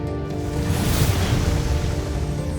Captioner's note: sparkling whoosh, energy swirling